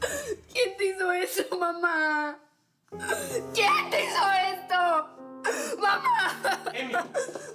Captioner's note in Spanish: sollozos